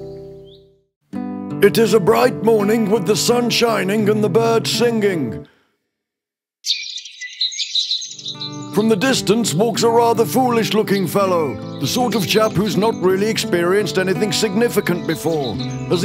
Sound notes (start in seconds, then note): 6.6 silence… then birds singing